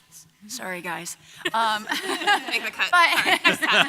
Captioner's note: several laughing